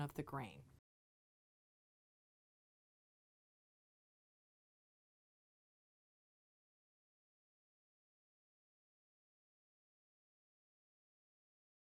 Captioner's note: no Sound Present